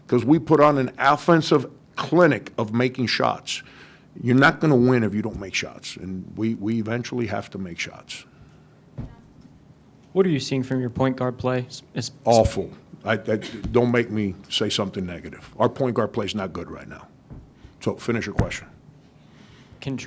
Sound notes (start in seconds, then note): 9.2 lady speaks faintly